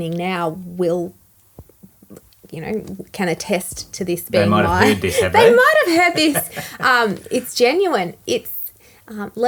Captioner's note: both laughing